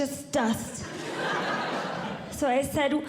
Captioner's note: audience Laughing